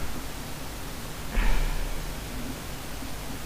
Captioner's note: sigh